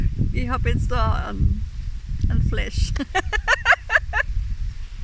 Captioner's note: laughter